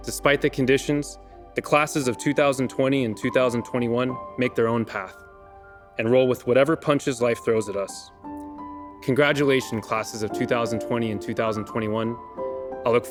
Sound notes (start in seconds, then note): none